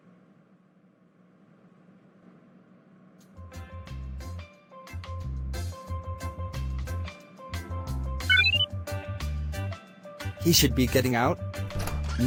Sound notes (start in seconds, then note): 8.3 watch beep